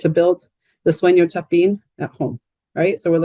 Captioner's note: speaking in Spanish